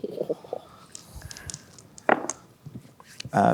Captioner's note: chortles; dice rolling